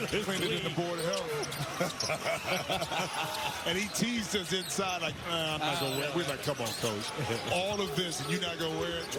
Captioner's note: buzzer; laughter